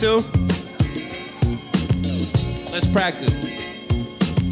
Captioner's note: crowd responds